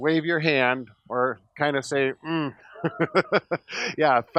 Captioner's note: laughs